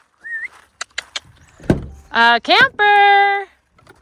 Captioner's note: whistling